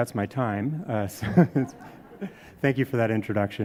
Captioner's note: laughs